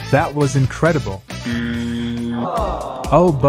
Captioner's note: buzzer sound